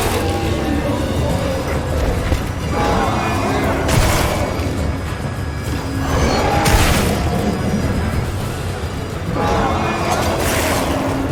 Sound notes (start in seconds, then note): 0.0 monster roaring; 3.3 character grunting